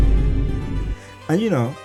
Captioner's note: vine boom shez